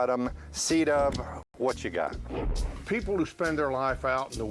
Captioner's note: whoosh